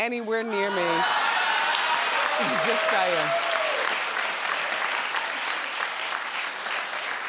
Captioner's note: audience laughs and cheers